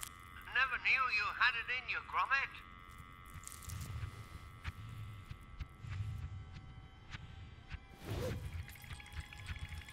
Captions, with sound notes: (Wallace on phone) Never knew you had it in you Gromit!